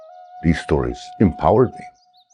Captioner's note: birds twittering distantly